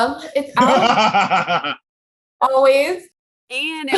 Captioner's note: laughing